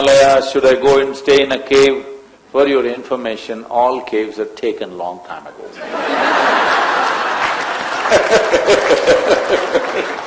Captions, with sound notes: “Should I go to Himalayas, should I go and stay in a cave?” For your information, all caves are taken long time ago (Laughter/Applause). There is no cave accommodation left,